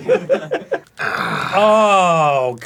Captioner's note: arin splits the haggis in twain with satisfactory groan